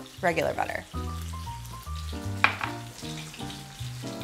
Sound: sizzling

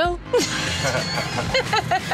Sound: laughing

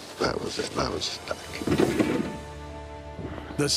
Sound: rumble

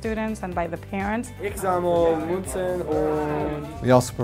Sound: non-english speech

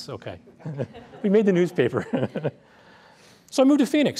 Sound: laughter

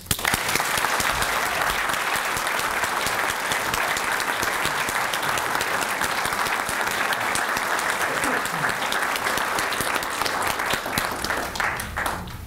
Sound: applause

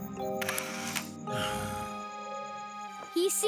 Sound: sighing

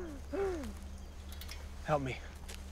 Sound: Sheila sobbing

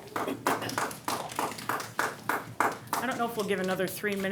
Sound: audience clap

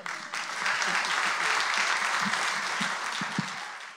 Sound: applause

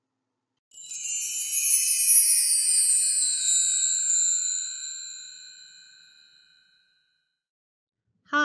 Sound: chimes

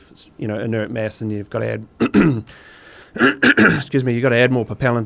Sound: clears throat

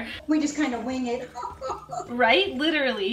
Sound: laughing dramatically

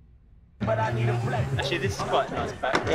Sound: workers chattering

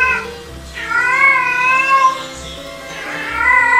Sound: male cat calls

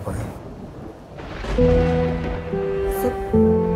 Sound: thundering

